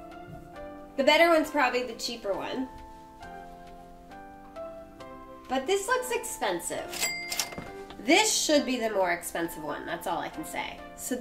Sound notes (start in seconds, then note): 6.9 register rings